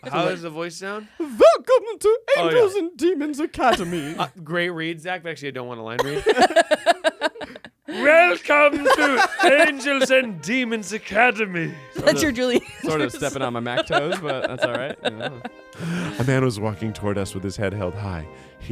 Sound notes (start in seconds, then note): 7.9 everyone laughs